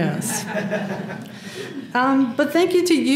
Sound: laugh

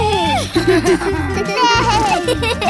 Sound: laughing

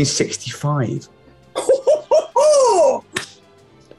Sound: whooping chortling

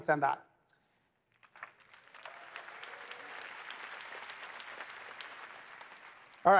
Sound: applause

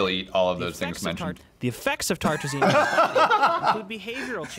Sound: both laugh

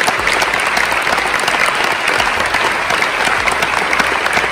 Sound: audience clapping

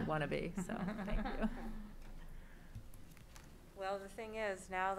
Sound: laughs

